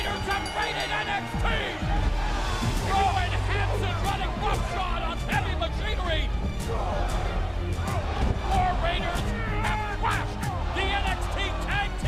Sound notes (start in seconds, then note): 0.0 bell ringing